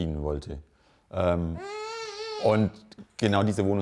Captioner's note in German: Kind quengelt